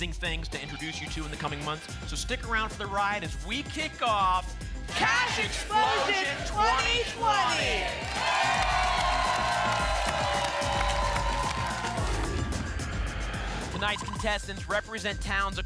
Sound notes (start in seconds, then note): 8.0 applause and cheering; 11.9 whoosh